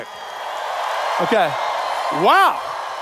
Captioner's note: cheers